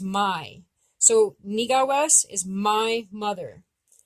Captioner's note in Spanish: Hablando Abenaki